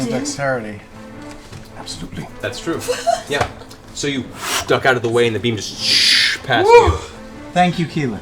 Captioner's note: shhh